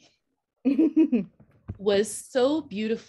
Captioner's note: laughing